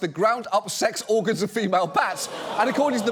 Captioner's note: studio audience groans